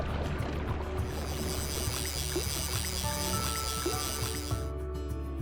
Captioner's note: fishing reel cranking